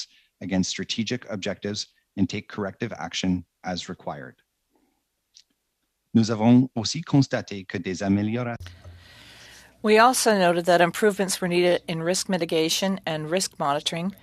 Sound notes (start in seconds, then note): 10.3 speaking French